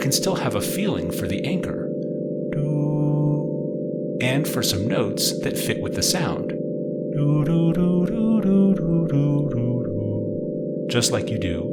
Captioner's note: hum